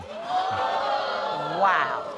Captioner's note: audience exclaiming